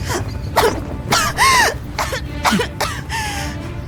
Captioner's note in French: Tousse